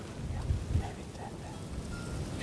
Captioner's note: whispering